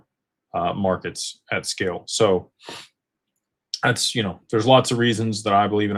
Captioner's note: snorts